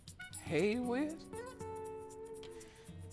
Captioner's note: inhales sharply